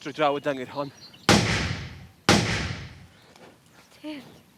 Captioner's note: two gunshots fired into the air